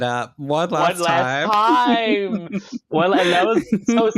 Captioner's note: laughter